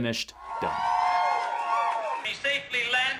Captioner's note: crowd cheers